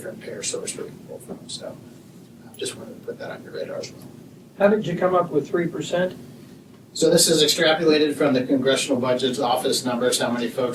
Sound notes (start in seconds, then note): none